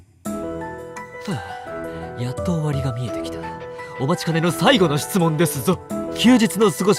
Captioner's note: sigh……